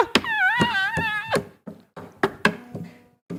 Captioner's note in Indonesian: menangis